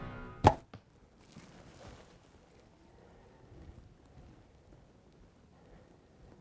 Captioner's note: arrow thunks; underbrush rustles